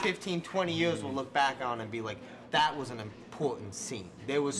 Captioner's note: knocks on table